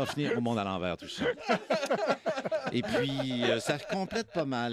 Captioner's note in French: rires